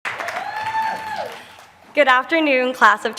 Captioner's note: applause